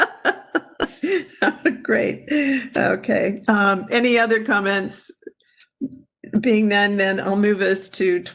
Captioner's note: laughing